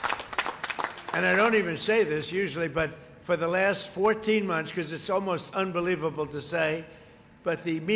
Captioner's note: applause